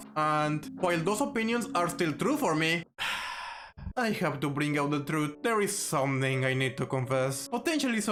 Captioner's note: sigh